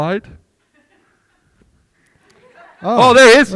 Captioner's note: group laughing